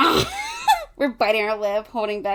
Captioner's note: laughing